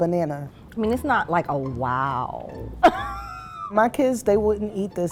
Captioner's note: laughing